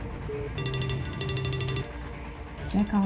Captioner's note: phone ringing